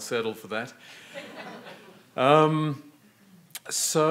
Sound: audience laughing

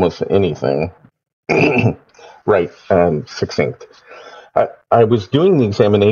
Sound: clears throat

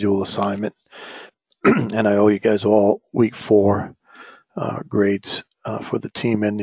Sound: cough

